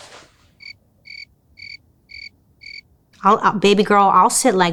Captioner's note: insects chirping